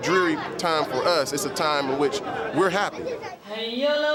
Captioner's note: chanting in arabic